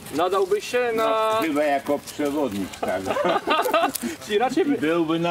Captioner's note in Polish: śmiech